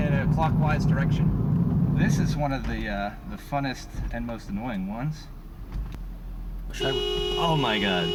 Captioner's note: horn Honking